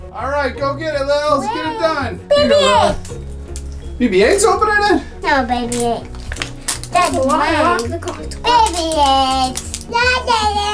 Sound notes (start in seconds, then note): 2.8 plastic crinkling; 4.2 girls making silly noises